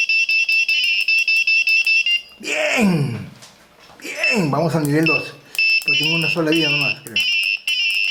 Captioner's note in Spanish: carraspeo